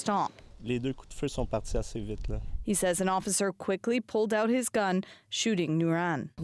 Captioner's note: speaking French